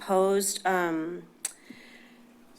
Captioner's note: click tongue